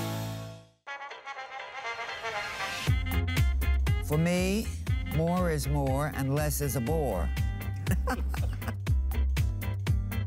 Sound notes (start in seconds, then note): 7.8 laughter